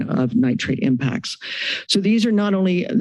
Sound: inhales

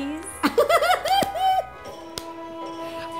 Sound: Ro Laughs

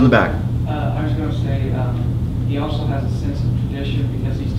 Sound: student off mic

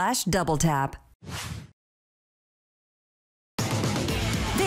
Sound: screen whooshing

